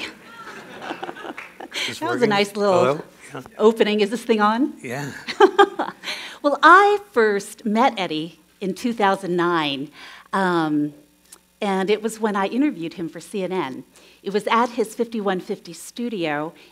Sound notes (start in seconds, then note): 0.0 chuckles; 4.9 laughs